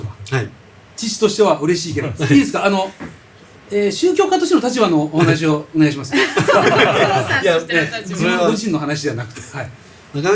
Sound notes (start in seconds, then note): 6.1 laughs